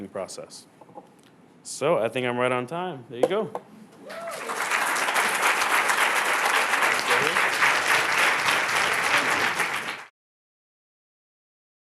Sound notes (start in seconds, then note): 4.0 applause